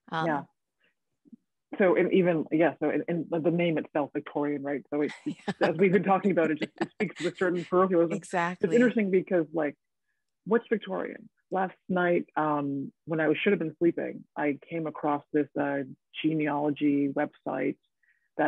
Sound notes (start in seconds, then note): 5.1 woman laughing